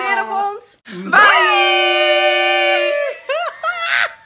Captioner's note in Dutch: gelach